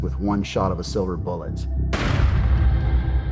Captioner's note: gunshot